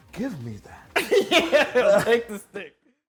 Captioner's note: laughing